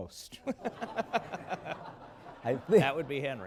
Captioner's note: laughter